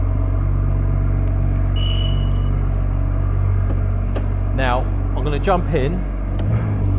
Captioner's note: beep - disarm